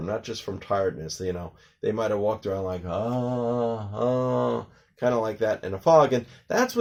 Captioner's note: groaning sounds